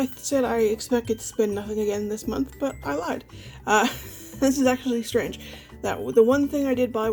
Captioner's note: laughs